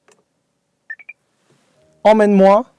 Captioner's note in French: bip